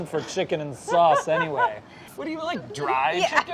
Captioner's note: laughing